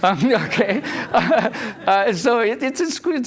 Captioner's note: laughter